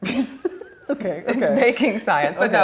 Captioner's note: laughs